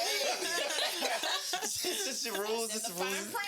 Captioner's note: laughing